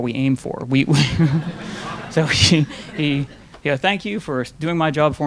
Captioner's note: laughing; audience laughing